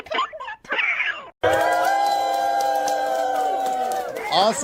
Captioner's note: applause